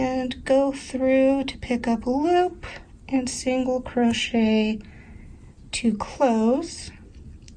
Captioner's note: none